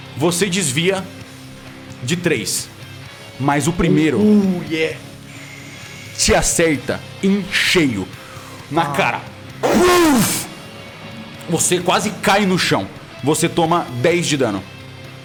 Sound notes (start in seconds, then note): 9.6 pow